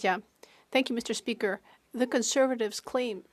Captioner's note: speaking French